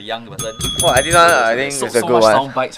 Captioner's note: ring ring